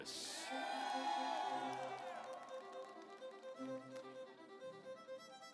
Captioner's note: audience applauds